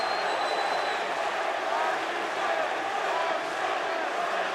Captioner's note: fans chanting